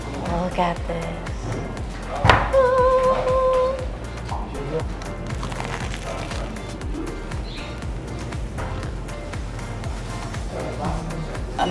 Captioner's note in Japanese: 天使の音